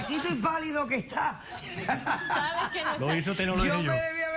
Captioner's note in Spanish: Risas